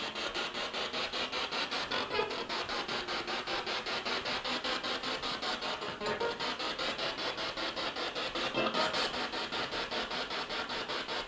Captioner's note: sound of the Spirit Box in the background